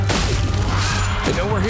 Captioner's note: vampires screeching